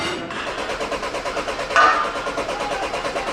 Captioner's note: engine sputters